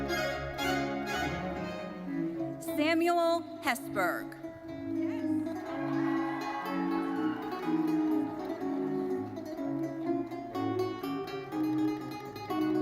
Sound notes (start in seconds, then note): 5.5 audience cheering; 8.2 bright thoughtful music continues